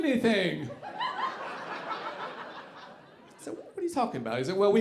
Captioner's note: audience laughing